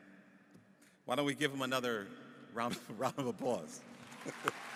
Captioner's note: applause